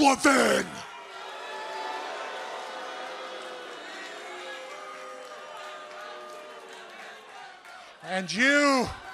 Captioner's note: crowd cheering